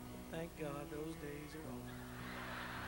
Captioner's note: halleluiah!